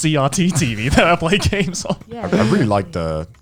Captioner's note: laughs